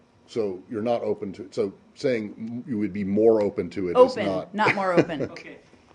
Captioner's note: laughter